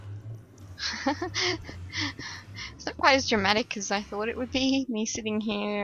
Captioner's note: laughs